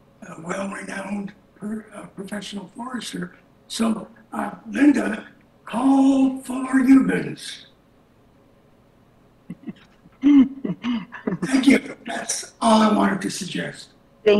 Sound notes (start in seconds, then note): 5.1 mutters; 9.5 chuckles